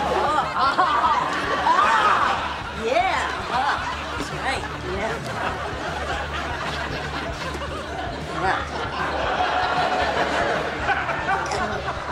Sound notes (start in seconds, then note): 0.1 woman meniacally laughing; 0.2 woman laughing; 6.2 laughing; 9.6 laughing